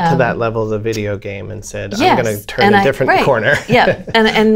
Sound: laughter

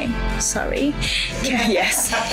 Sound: woman laughs

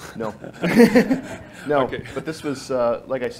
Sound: laughing

